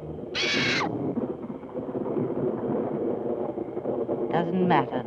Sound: bird shrieking

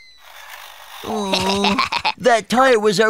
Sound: Blo groans; Tori laughs

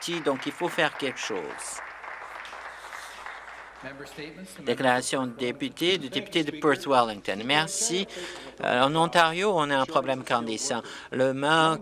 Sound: some Applause

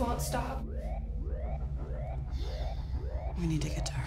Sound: alarm blaring; intense music

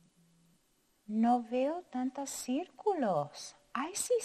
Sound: speaking in foreign language

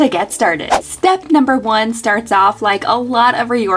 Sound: swishing

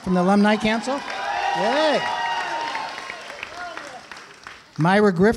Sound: applause

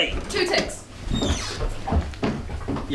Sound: door opening

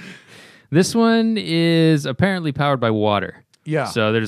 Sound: laughter

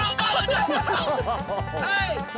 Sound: laughter

